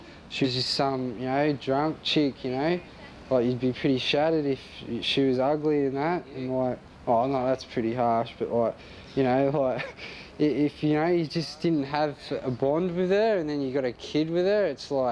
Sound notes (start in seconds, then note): 9.2 laughs